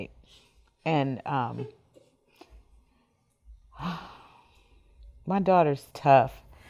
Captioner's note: sighs heavily